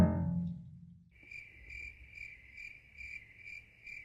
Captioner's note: crickets chirp